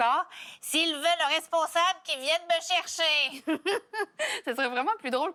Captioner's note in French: rires